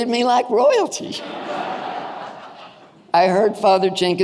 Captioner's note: audience laughing